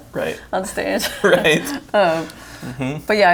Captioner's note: laughs